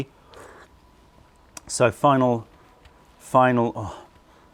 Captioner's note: sips tea